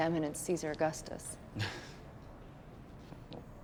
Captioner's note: laughs